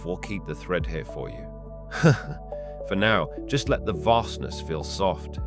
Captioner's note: chuckle